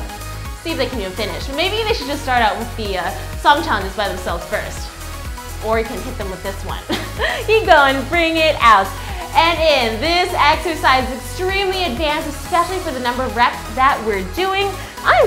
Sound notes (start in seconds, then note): 6.9 laughs